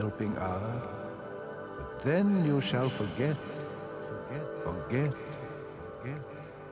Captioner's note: echoes "forget"